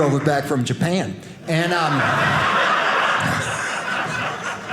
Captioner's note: audience laughing